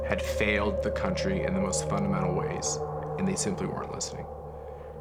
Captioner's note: none